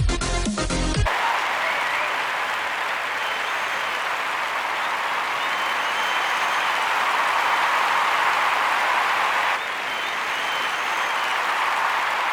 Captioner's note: applause